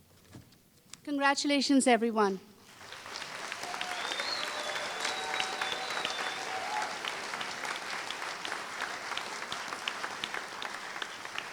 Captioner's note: applause